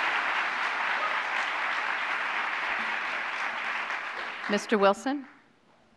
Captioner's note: applause